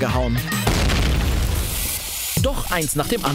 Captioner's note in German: Explosion